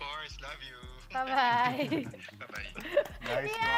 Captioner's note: chuckles; claps